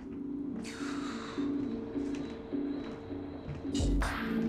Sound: exhales

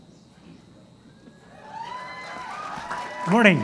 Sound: cheering and applause

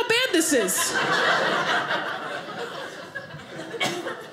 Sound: audience laughing

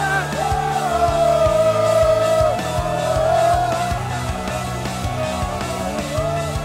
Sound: chants

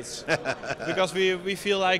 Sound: chuckles

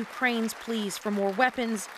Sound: applause

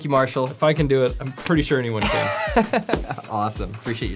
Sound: laughs

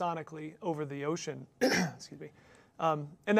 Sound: cough

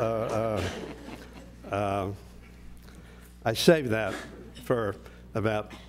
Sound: laugh

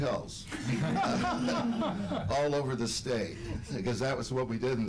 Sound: laughter

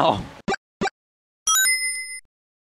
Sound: ding!

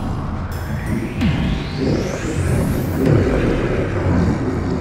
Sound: beastly ancient evil growls of doom

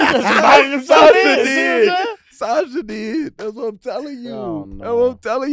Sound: group laughs

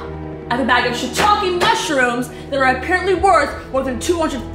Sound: none

